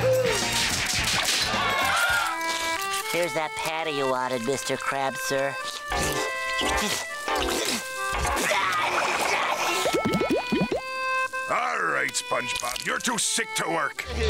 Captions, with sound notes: [smacking] [cheering] Here's that you wanted Mr. Krabs sir. [sneezing] All right, SpongeBob, you're too sick to work.